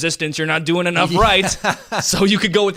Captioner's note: laughs